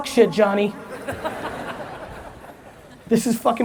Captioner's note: audience laughs